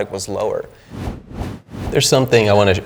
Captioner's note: whooshing